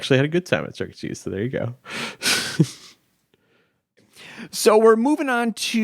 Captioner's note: chuckling